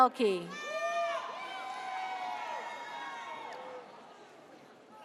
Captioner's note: audience cheers